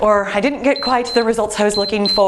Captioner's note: timer beeps